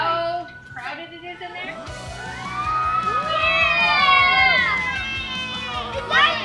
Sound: whooo! Yeah!

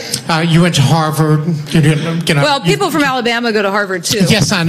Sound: audience laughs

